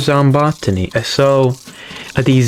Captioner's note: inales Oxygen